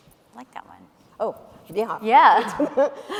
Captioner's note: laughs